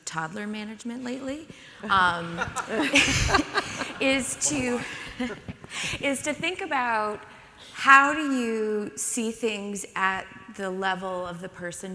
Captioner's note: audience laughs